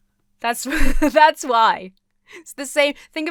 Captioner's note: chuckles